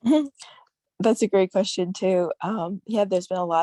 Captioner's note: laughs